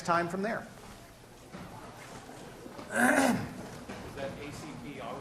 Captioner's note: class murmur